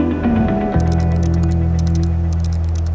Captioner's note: typing; soft Electronic Music